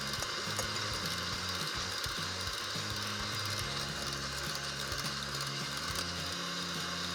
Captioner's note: mixer motor runs